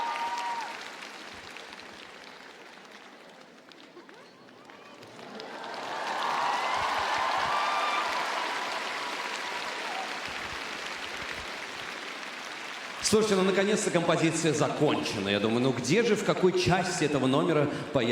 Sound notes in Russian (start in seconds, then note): 0.1 аплодисменты; 7.4 ликование